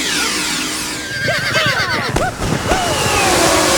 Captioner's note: horses whinnying; cowpokes chanting